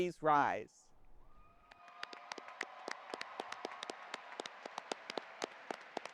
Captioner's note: audience applauding